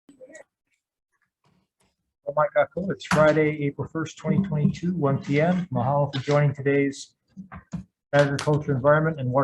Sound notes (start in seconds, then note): 1.4 gavel bangs; 1.4 speaking in foreign language